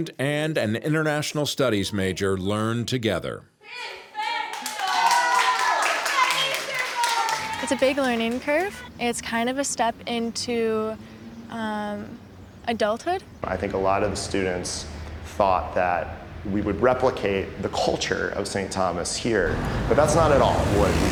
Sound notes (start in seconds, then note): 3.9 screaming in foreign language